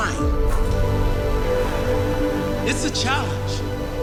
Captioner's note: net swishes